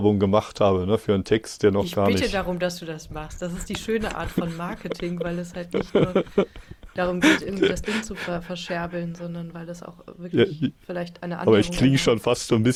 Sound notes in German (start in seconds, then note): 3.6 gelächter